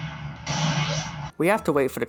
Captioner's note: gunshot